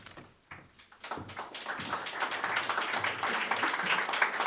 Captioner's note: applause